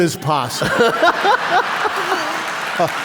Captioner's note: laughter; applause